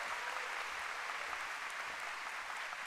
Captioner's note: applause